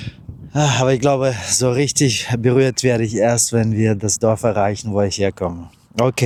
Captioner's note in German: seufzt